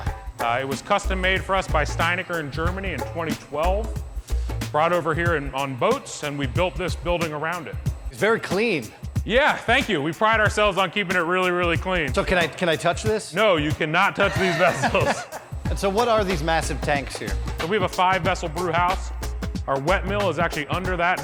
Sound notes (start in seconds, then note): 14.2 laughing